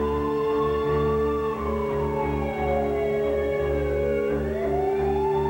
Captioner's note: sirens approach